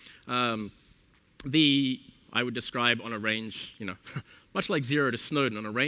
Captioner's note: chuckle